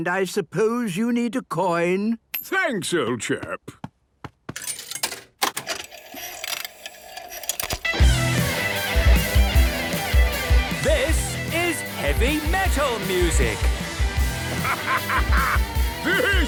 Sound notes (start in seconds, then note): 5.4 clicks, whirring; 7.3 heavy metal music plays; 11.0 shouting